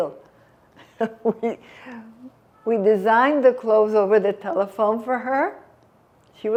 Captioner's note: laughing